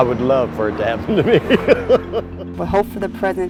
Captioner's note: laughs